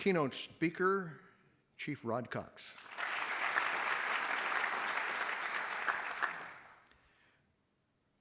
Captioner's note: applause